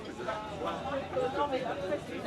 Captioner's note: people chattering